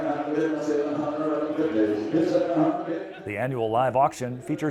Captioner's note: auctioneer calling